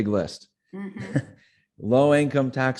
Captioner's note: laughing